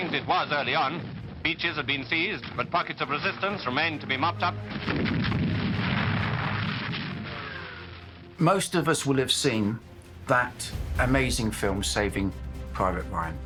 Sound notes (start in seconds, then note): 4.8 explosions; 4.8 gunfire